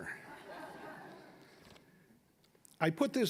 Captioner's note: audience laughing